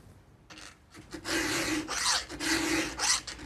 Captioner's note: filing noises